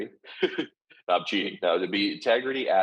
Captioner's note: laughing